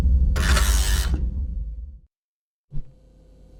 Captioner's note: buzzer rings